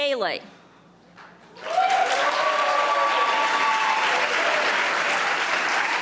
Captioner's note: audience applauding